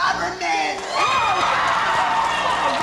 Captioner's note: cheering